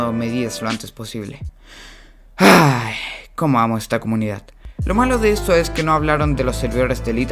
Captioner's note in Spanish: suspira